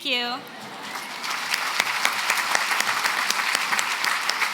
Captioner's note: applause